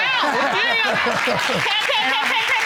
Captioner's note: laughing